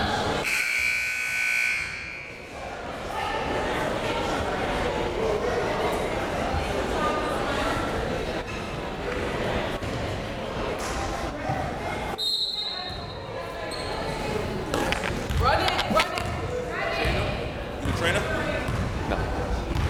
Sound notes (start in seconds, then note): 1.0 buzzer ringing; 12.2 whistle tweeting; 16.3 crowd members shouting